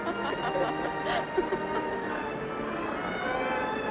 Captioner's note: laughter